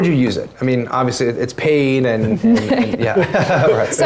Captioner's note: laugh